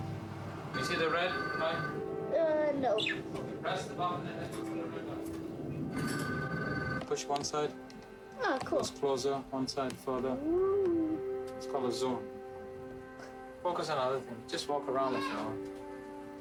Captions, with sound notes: (phone rings) (bird chirps) (phone rings) - Push one side.